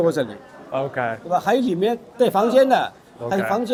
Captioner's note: Mandarin